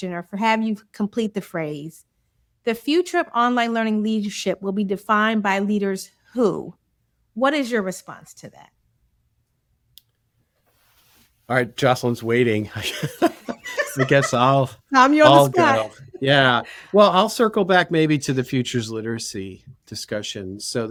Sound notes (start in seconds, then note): 12.6 laughs